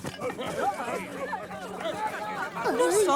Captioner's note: crowd shouting indistinctly